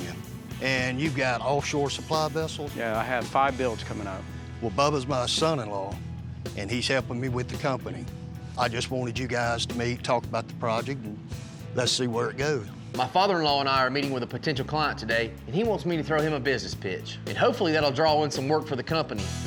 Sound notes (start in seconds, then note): none